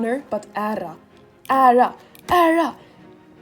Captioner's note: weird accent